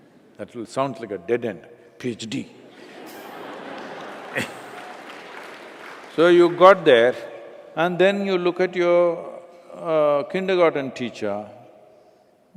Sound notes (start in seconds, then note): 2.7 Laughter/Applause